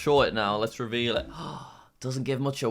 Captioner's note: gasps